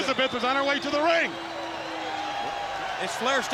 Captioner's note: crowd cheering